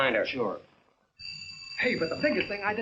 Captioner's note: phone ringing